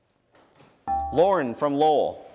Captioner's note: dinging